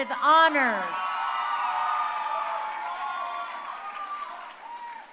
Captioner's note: crowd cheering